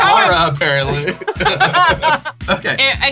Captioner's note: laughs